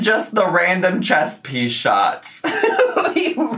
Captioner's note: laughs